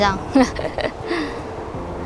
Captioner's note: gasp